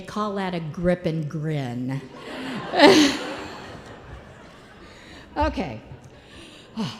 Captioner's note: laughter